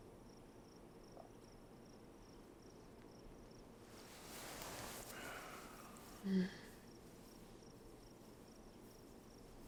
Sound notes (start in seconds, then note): 5.1 Christopher exhales